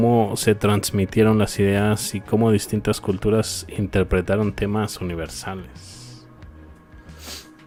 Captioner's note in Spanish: resoplido